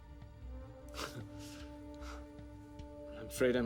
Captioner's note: chuckles